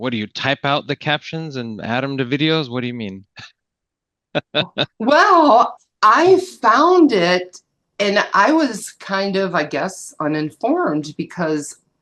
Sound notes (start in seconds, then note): 4.3 chuckling